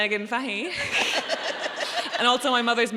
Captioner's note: audience laughs